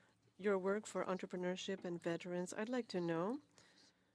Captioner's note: speaking French